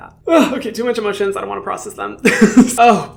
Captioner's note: laughs